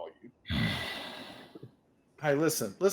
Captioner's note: grunts